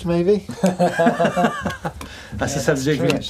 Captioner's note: laughing